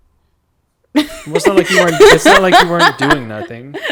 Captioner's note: laughs